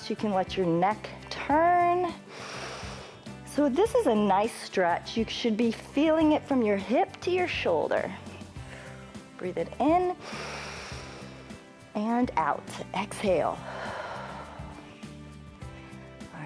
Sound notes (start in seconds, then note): 2.3 inhales; 10.2 inhales; 13.4 exhales